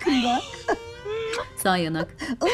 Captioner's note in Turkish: Öpücük sesi